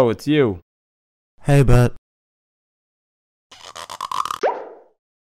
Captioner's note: pops